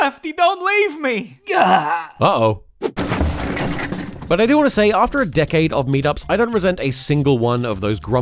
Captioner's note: smash